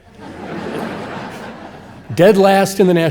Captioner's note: audience laughing